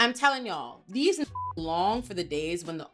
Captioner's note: beep